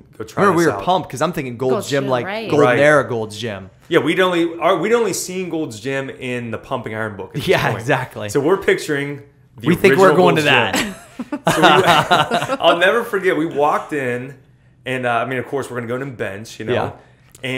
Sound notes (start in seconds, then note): 7.4 laughs; 10.7 laughter